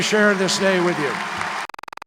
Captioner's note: applause